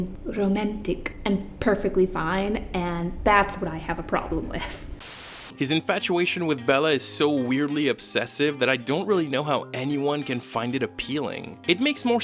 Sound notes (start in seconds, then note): 4.8 static noise